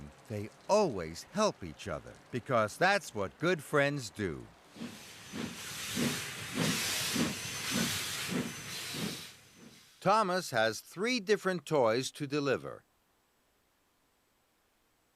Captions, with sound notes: THEY ALWAYS HELP EACH OTHER, BECAUSE THAT'S WHAT GOOD FRIENDS DO. [train engine chugging] THOMAS HAS THREE DIFFERENT TOYS TO DELIVER.